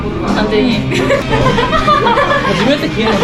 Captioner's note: laughing